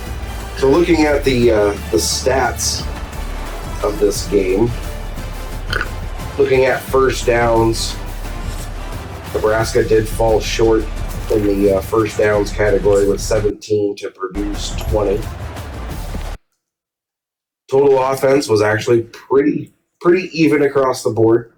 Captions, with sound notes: [Crowd Noises] So looking at the stats of this game, looking at first downs, Nebraska did fall short in the first downs category with 17 to produce 20. [Crowd Noises] Total offense was actually pretty even across the board.